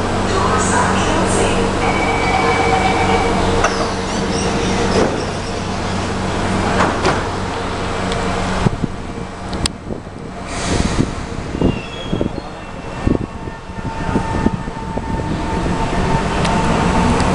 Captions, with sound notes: >>| Doors are closing | << *platform doors locked* *train air brake release* *train starts to accelerate* *wind gusting sound*